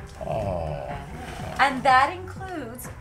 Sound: Kennedy growls

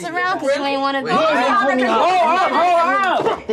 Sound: everyone yelling

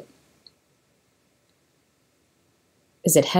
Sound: silence

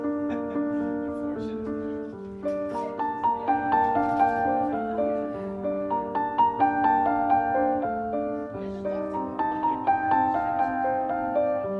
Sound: romantic Piano Music; soft background chatter

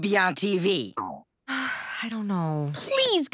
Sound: sighs

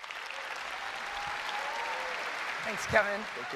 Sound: applause

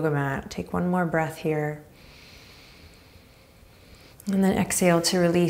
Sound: inhaling deeply

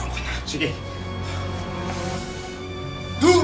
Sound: breathes heavily

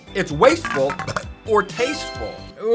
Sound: burps

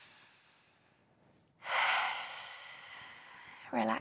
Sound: sigh

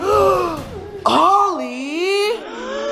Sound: all gasp

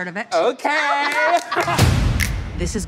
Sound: all laughing

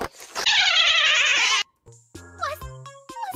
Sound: boo sounds

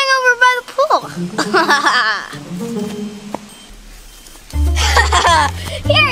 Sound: Evil Assistant laughs; Evil Assistant laughs

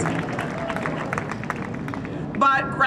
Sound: cheering and Applause

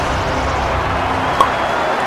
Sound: pop

